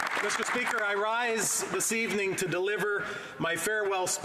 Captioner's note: applause